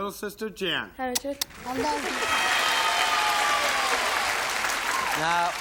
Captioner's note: applause